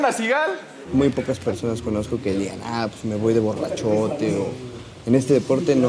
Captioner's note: laughter